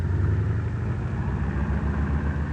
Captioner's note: motor revving